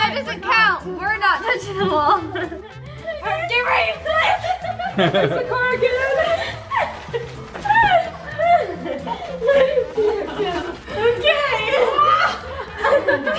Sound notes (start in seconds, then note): 7.2 family laughs